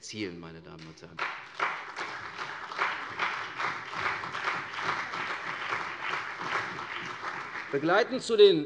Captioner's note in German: Beifall CDU und BÜNDNIS 90/DIE GRÜNEN